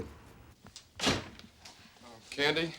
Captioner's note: door closes